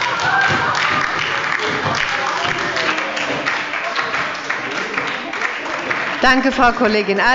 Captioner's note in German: Heiterkeit und Beifall bei der SPD und der LINKEN